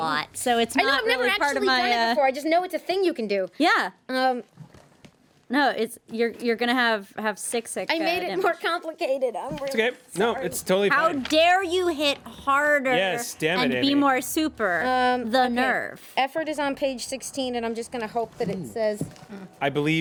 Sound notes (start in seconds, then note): none